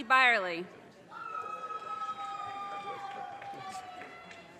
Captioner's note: audience cheers and applause